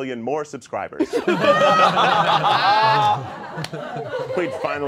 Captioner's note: all laughing